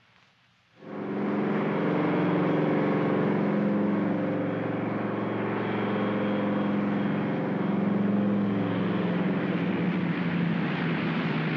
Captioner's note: aircraft rumbles